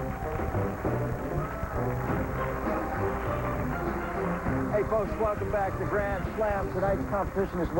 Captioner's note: applause